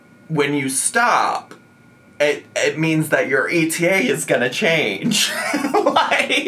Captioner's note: laughs